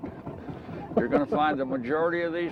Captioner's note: chuckling